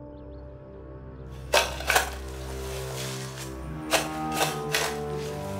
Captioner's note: shovel scraping